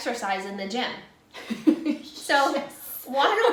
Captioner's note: laughing